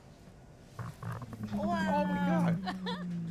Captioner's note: deep, resonant rumbling